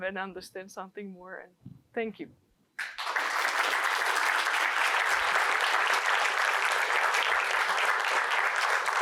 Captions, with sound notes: and understand something more and thank you. [APPLAUSE]